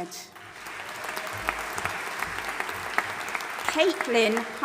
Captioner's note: audience applauding